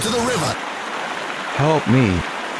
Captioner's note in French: bruits de rivière